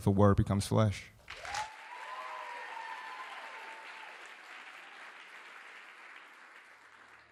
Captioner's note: audience clapping; audience cheering